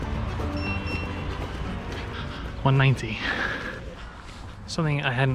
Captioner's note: GARMIN chimes